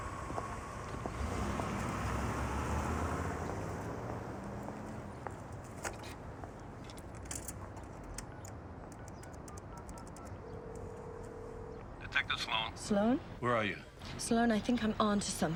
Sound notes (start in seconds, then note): 10.5 phone rings